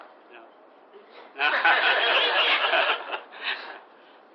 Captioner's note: laughter